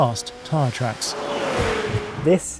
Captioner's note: car zooming